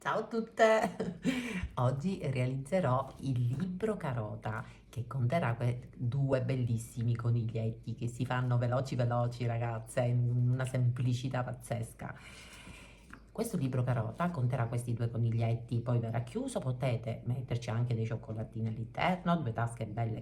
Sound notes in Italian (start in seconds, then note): 0.8 risate